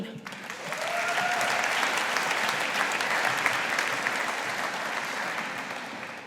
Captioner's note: audience applauding